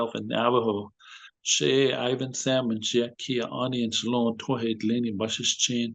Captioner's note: speaking Navajo